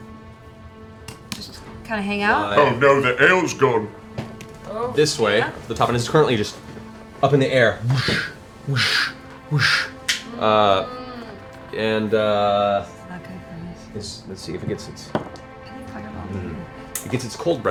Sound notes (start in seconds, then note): 7.8 flapping